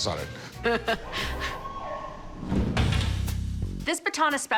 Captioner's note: laughs; siren whoops